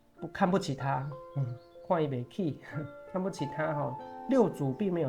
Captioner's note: dialect